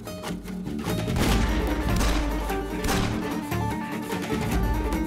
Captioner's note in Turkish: Silah sesleri